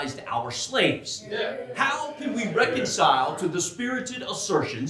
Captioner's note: audience cheering